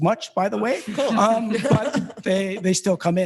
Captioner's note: board members laughing